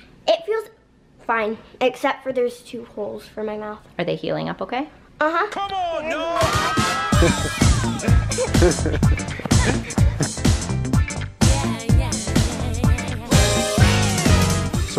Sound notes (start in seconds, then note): 6.3 upbeat music; 6.5 laughing